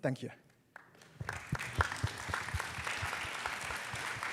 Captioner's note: applause